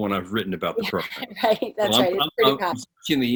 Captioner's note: chuckling